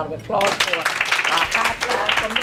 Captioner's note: applauding